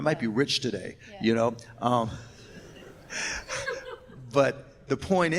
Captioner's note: laughs